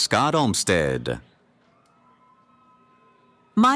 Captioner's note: cheering